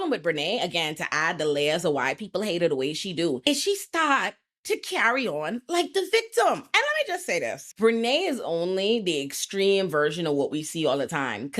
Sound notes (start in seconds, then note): none